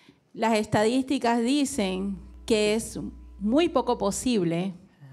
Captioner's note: speaking in foreign language